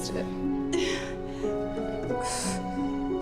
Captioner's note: grunts, pants